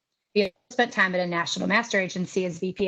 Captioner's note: audio is choppy